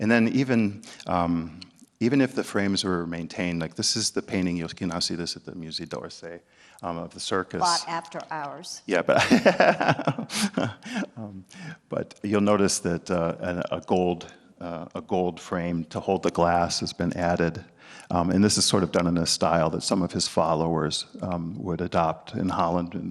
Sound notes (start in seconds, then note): 9.0 laughs